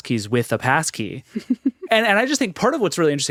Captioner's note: laughs